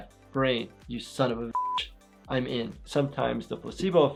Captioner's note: beep